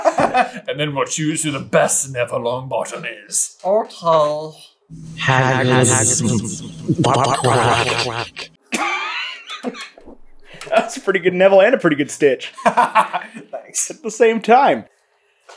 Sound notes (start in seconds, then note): 5.0 echoey and underwater; 8.7 laughter; 12.8 laughing